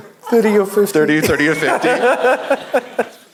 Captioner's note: laugh